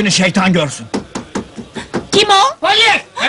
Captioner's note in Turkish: kapi çalinir